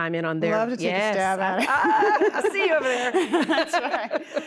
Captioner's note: laughter